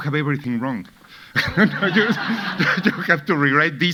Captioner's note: audience laughing